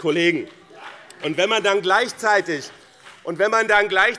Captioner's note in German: Beifall BÜNDNIS 90/DIE GRÜNEN